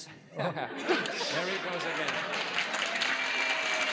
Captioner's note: laughs